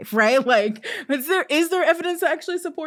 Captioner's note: chuckling